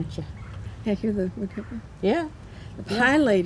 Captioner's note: bird singing